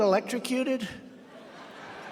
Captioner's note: laughter